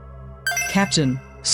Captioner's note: PIA Chime